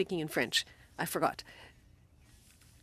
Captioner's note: speaking French